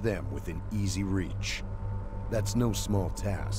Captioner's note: voiceover